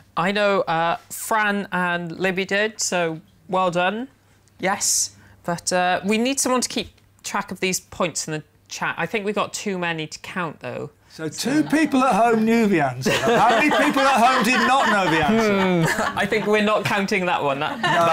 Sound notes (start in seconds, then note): 13.0 laughter